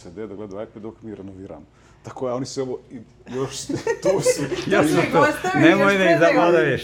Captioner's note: laughter